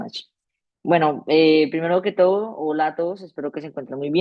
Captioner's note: speaking spanish